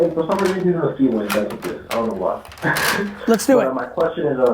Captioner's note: laughs